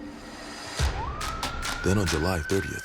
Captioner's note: sirens